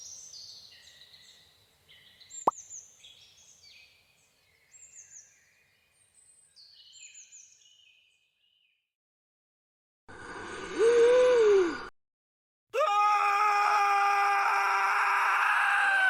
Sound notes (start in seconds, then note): 10.8 gasp; 12.7 screaming